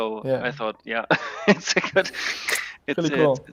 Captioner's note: chuckling